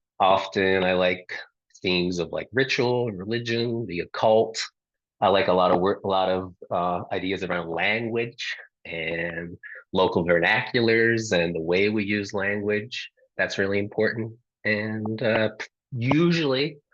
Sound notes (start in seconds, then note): none